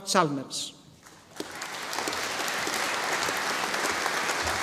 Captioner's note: audience applauding